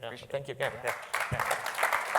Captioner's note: applause